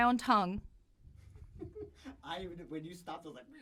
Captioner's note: laughing